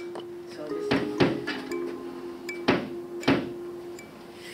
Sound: hammer banging

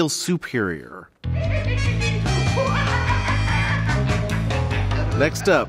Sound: The Joker laughs over upbeat music

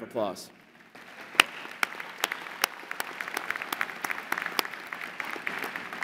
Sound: applause

